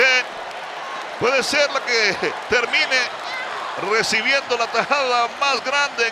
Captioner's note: laugh